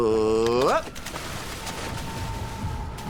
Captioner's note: opportunistic splashing